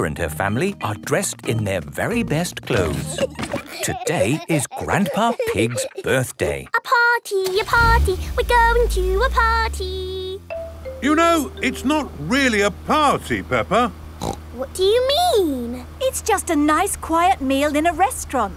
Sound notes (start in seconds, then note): 2.6 giggling; 6.5 sing song voice